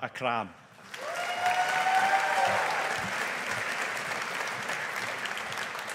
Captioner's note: audience applauding